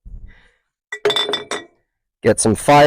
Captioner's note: jars clanking